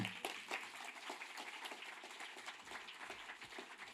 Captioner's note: audience applauding